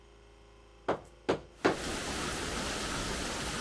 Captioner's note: hammer pounding